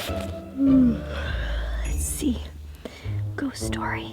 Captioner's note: yawns